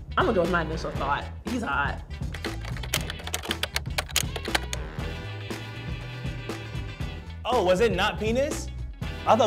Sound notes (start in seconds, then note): 2.3 typing; 2.7 relaxed music